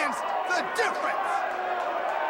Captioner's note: crowd cheering